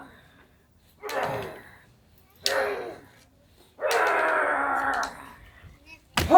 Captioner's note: grunting